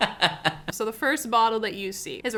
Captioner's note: laughing